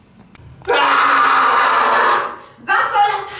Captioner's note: screams